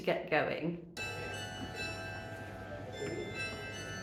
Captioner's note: bells chiming